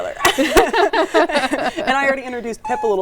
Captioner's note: both laughing